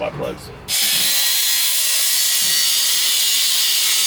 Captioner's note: grinding